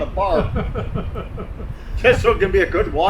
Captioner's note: laughing